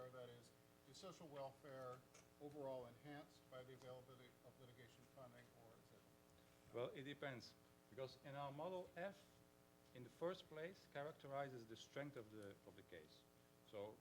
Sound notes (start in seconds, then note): 5.9 faintly speaking